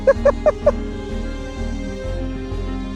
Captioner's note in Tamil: சிரிப்பு